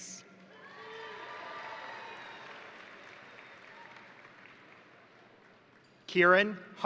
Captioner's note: crowd cheering; crowd applauding